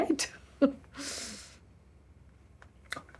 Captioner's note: she chuckles, inhales